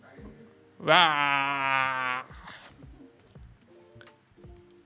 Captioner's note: laughter